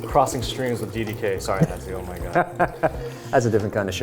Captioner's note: laughing